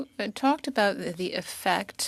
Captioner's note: speaking French